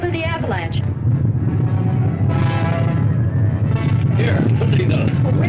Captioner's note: volcano rumbling